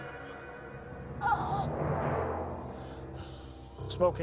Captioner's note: Pappy croaks